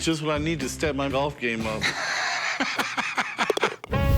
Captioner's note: laughs